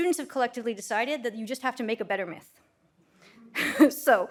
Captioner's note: laughs